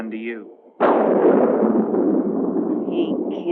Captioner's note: thunder crashing